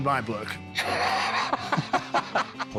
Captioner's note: laughs